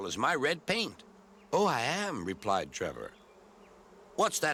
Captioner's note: bees buzzing